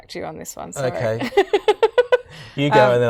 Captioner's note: laughing